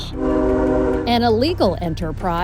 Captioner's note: train honking